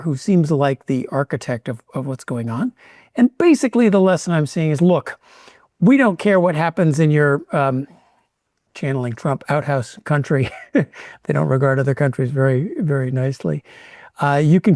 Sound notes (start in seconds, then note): 10.6 laughs